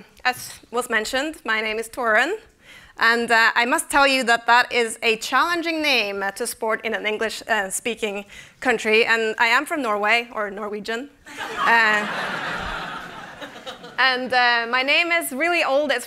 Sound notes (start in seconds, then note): 11.2 laughter